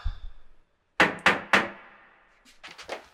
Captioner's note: banging on door